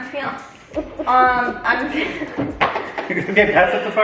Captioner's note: family laughing